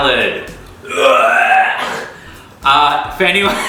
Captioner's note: wretches